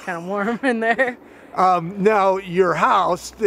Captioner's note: speaker giggles